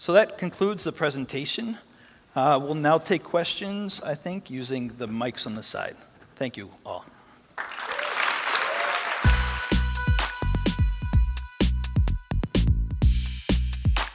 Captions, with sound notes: So that concludes the presentation. We'll now take questions, I think, using the mics on the side. Thank you all. [APPLAUSE] [LOGO MUSIC PLAYING]